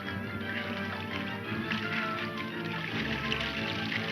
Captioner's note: water sloshes